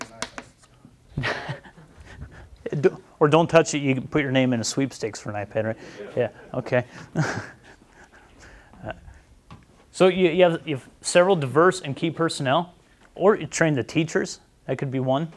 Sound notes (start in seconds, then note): 6.9 chuckles